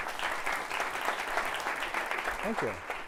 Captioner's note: applause